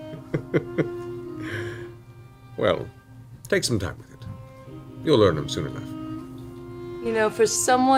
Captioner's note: laughs